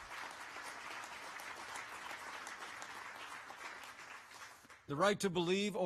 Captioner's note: applause